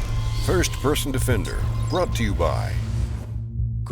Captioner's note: voiceover